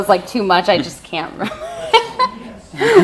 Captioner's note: laughs